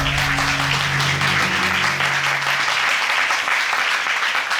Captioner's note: audience applauding